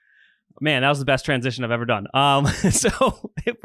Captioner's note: laughs